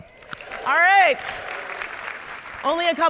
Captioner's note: audience applauding and cheering